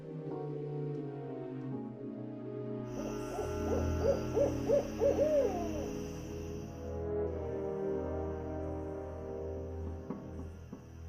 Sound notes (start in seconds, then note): 2.9 owl hooting; 8.2 ominous music